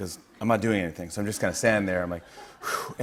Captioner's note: breathes deeply